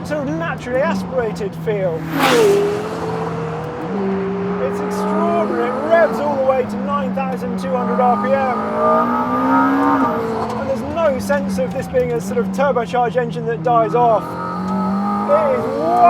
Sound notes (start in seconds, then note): 2.3 car zooming; 2.3 engine revving